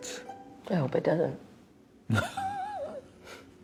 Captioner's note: both laugh